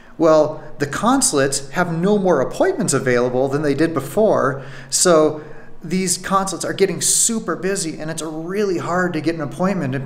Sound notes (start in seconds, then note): none